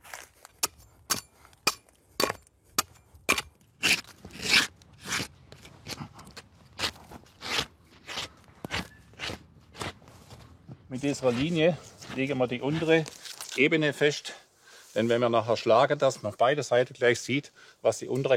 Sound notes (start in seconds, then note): 3.8 scraping sound